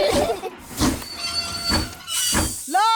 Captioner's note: laugh; train chugs